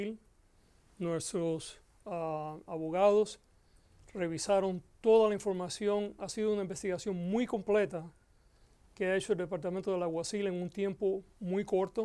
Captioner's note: Gascon speaking Spanish